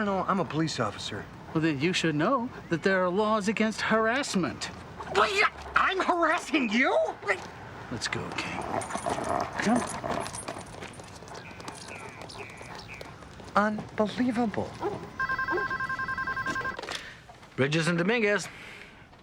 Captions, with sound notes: - Well, then you should know that there are laws against harassment. - I'm harassing you? - Let's go, King. Come on. - Unbelievable. (phone ringing) - Bridges and Dominguez.